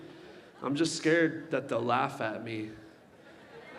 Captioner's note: laughs